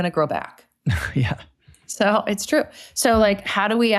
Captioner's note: chuckles